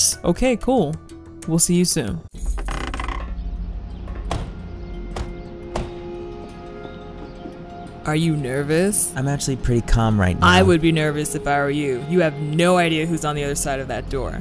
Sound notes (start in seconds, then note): 2.4 doors creak; 4.0 doors slam